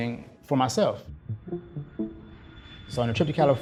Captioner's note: plane soaring